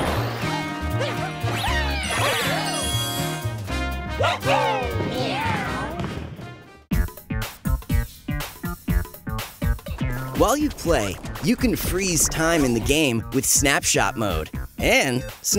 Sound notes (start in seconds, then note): 4.2 Mario characters all cheering, then meowing; 7.0 groovy synth beat